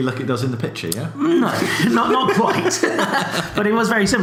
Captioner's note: laughs